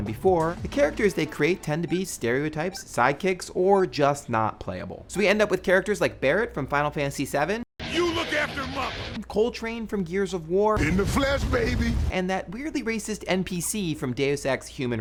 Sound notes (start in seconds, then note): 7.7 gruffly